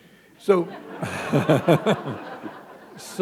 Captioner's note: laughter